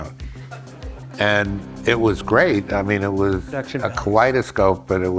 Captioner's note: audience laughs